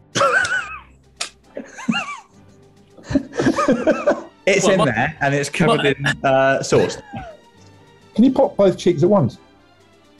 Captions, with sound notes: [SNIGGERING] [LAUGHTER] It's in there, and it's covered in, er, sauce. Can you pop both cheeks at once?